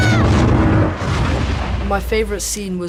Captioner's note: Pinocchio screaming; water splashing